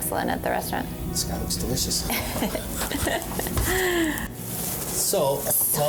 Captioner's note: laughs